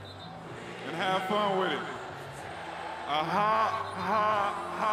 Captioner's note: cheers and Applause